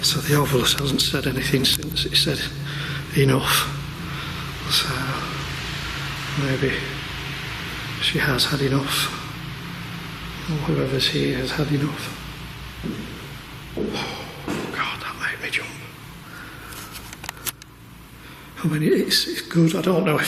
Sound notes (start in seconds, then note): 13.8 sighing